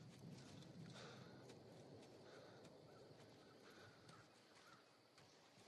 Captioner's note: breathing heavily